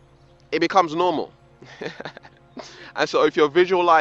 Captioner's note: laughs